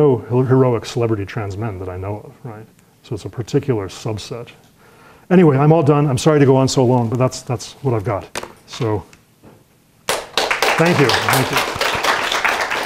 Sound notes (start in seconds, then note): 10.0 applause